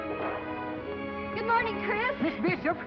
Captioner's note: foreign accent